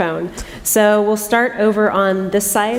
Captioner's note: chuckle